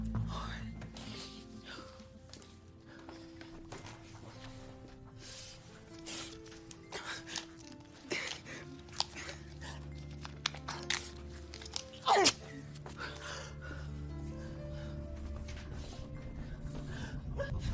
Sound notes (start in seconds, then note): 8.3 gasping; 11.7 tape ripping; 15.3 panting